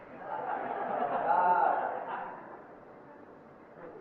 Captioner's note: devotees laughing